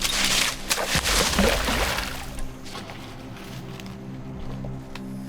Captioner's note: water plopping